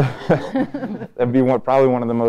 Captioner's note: both laughing